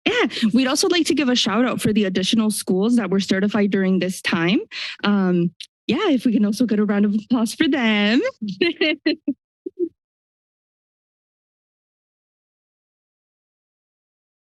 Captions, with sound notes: -Yeah. We'd also like to give a shout out for the additional schools that we're certified during this time. Um, yeah, if we can also get a round of applause for them. [laughter]